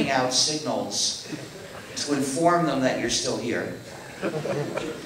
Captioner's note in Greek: Γέλια στο ακροατήριο